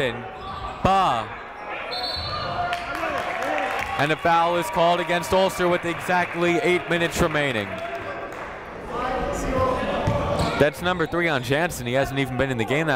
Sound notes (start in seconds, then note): 1.9 whistle blowing